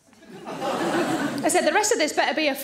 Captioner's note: audience laughing